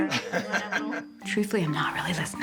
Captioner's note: laughs